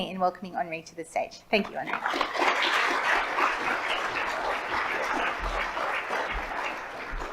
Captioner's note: audience applauds